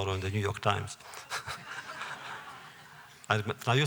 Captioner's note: laughter